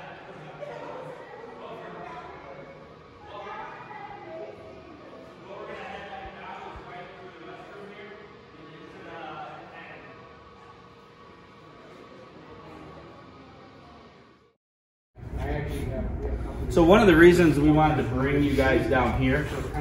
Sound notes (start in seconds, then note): 10.7 ambient hissing and echo muffles Visitors; 15.2 ambient hissing muffles